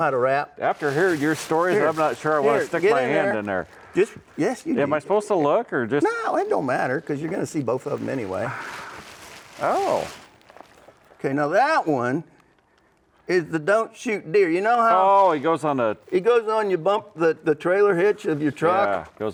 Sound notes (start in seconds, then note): none